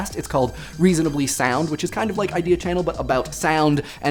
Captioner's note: none